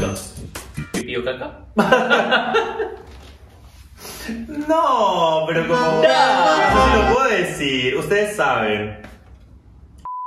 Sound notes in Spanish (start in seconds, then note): 6.2 acento argentino